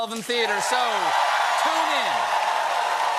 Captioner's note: cheers and applause